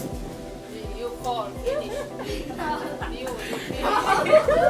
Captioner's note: chattering; women laughing